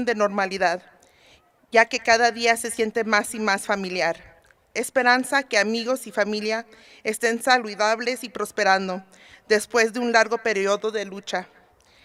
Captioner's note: speaking spanish